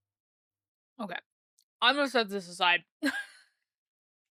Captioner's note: laughs